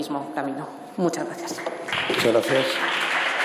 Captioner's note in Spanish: Aplausos